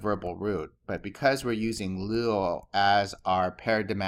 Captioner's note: speaking greek